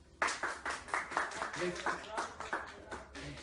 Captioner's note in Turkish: alkış